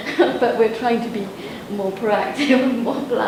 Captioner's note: laughs